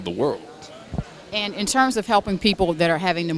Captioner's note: background crowd talking